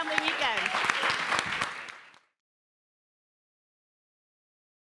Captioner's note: applause